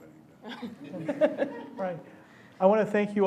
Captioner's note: laughter